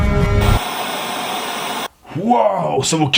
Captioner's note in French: Bruit parasite